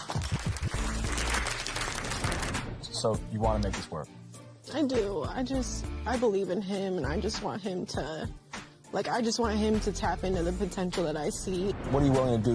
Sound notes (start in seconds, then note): 0.0 applause; 5.4 voice breaking